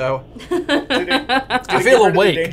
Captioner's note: laughs